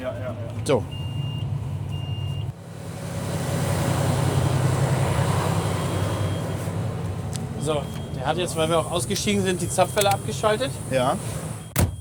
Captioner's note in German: Motor läuft